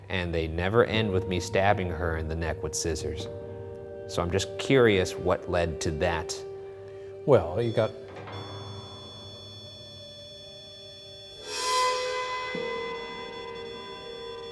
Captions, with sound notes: and they never end with me stabbing her in the neck with scissors, so I'm just curious what led to that. - Well, you got-- (REM-pod beeping) (tense music)